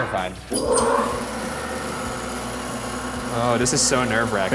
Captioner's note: saw powering on